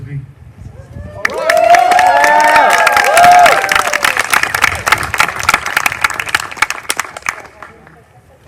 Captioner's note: applause